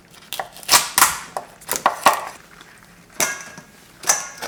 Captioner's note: crab cracking